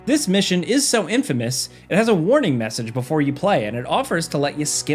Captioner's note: none